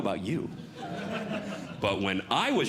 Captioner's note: audience Laughing